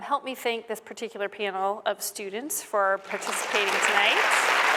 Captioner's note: applause